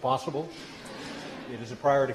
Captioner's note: laughter